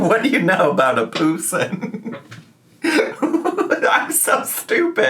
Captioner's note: laughs